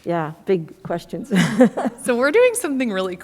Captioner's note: laughs